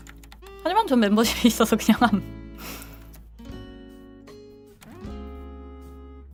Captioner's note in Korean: 콧방귀